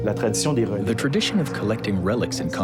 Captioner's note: speaking in foreign language